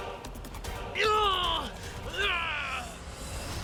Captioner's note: moans of pain